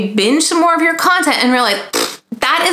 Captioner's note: blows raspberry